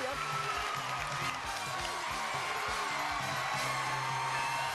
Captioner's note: crowd cheers